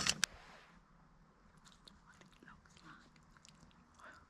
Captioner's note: whisper